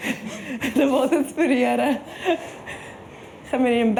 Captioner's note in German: Lachend